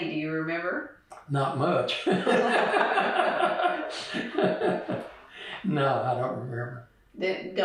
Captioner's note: laughter